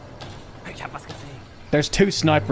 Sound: german

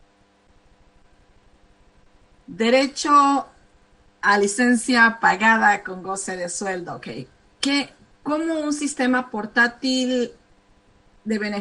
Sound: speaking spanish

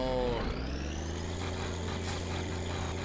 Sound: engine starts

